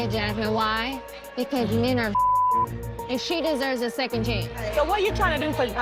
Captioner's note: beep